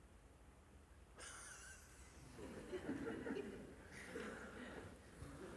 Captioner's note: laughter